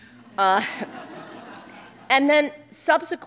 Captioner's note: laughter